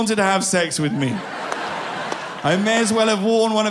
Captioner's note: people laughing